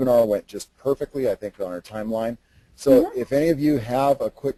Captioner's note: laughs